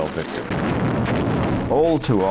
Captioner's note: explosions booming